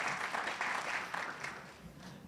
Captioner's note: audience cheers and applauds